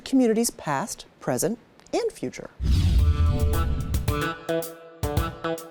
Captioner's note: screen whooshing